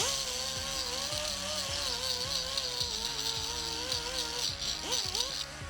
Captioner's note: hammering